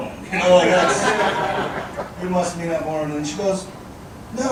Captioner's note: audience laughing